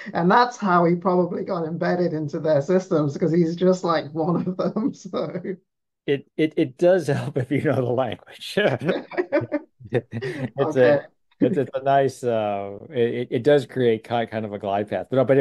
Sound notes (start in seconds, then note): 8.5 laughing